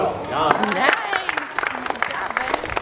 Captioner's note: applause